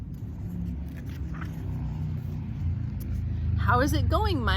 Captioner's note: engine revving